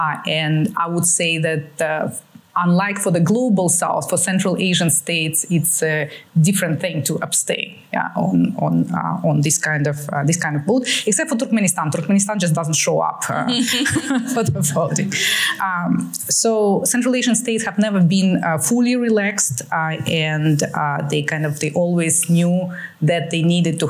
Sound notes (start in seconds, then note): 15.2 laughter